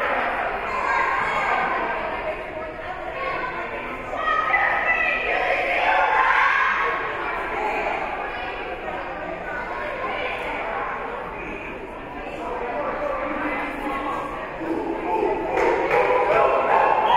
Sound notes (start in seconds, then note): 4.2 Queensborough performing team chant; 14.6 Bronx performing team chant